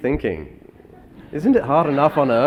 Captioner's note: laughs